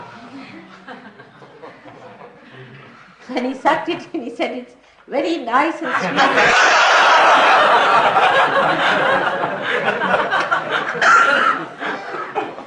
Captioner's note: laughter